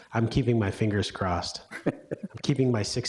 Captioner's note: laughs